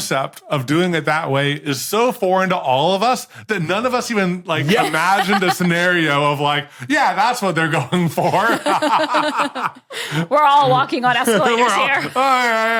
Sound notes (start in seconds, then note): 8.1 laugh